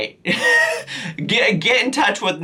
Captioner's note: giggles